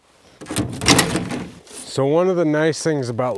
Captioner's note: object rattling